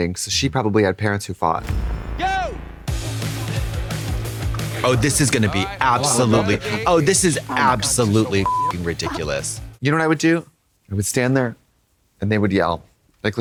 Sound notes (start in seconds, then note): 8.4 beep